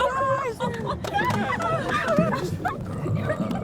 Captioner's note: friends cheer and clap; water bubbles